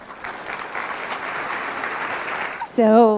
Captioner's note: applause